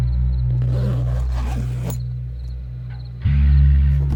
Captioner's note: bag unzips